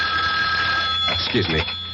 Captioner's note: phone rings